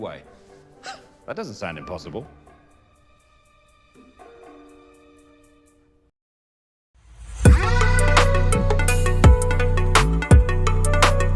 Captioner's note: chuckles